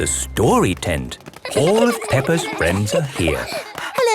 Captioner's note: excited babbling